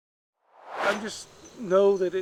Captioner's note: air swooshes